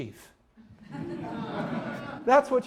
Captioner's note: audience laughing